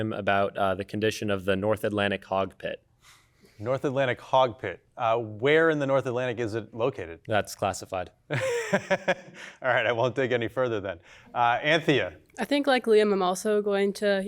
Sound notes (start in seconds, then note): 8.4 laughs